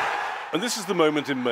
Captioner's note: cheering